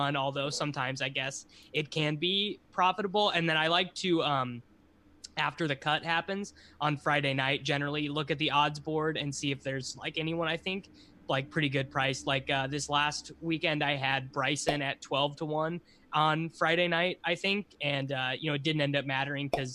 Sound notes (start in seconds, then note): 14.6 popup pops; 19.4 popup pops